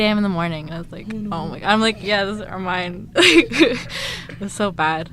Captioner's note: laughs